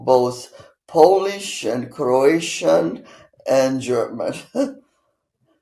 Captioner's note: laughing